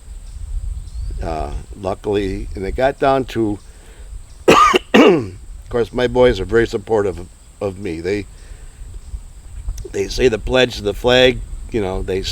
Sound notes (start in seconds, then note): 4.4 coughs